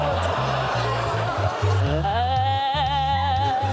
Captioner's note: audience groans